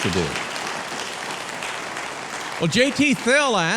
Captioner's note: audience clapping